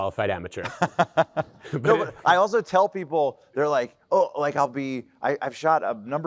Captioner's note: laughs